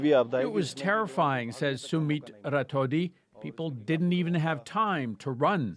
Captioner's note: speaking alternate language